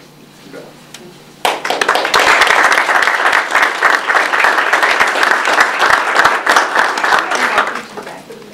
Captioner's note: audience applause